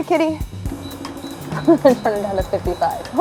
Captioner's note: AC beeping